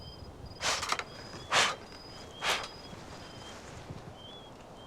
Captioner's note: Katherine blows